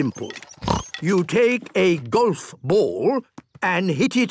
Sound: snort

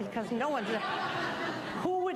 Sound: audience laughing

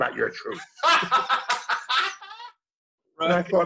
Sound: laughter

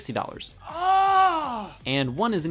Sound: grunts

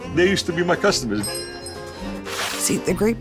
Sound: bell ringing; whooshing sound

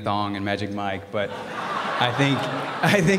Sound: laughter

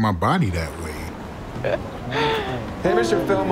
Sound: laughter

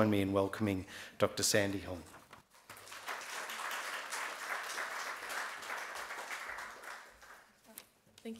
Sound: audience claps

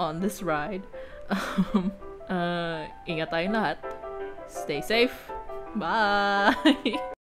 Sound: laughs

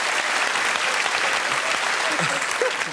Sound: applause

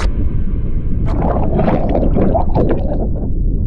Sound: water bubbling

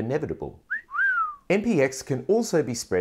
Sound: person whistles

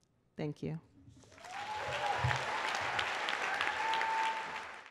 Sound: applause

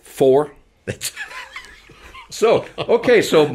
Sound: laughing

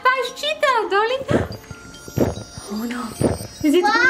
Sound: gulping

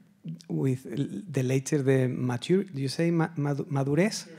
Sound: speaking Spanish

